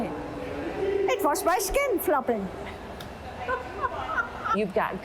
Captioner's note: laughing